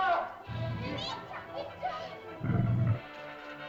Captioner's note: man cries out; children's frightened chatter; dinosaur growls; suspenseful music